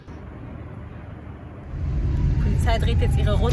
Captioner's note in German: Polizeisirene